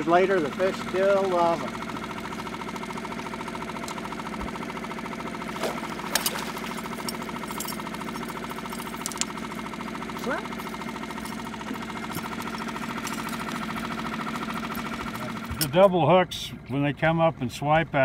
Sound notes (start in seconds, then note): 2.2 boat engine idling; 5.4 fish splashing; 5.6 tackle clanking